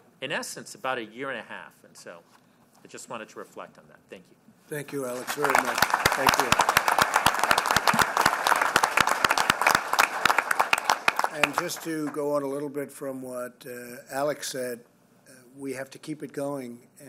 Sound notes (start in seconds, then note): 5.2 applause